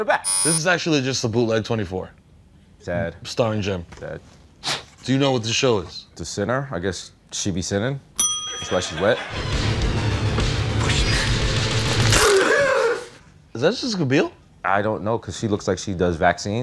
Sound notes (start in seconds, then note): 0.2 buzzer; 8.2 bell rings; 10.6 whispering; 12.4 gasping